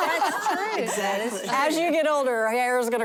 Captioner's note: laughter